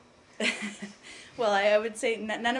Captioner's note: laughter